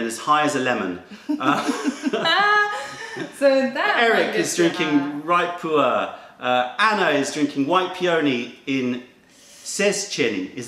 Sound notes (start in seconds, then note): 1.2 laughter